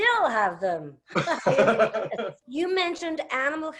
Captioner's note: laughs